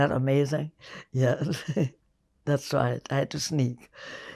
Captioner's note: laughing